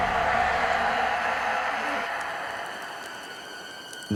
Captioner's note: spooky music climaxes; monster yelling